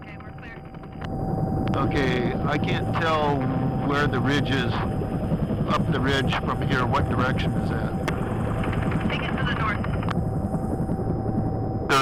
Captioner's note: radio traffic, directing a bucket drop